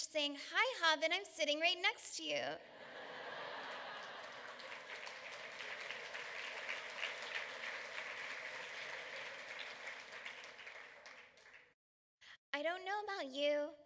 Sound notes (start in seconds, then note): 2.6 laughter, clapping